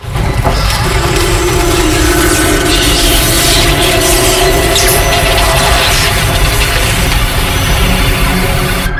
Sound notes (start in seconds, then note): 0.0 dramatic music; 0.6 electric buzzing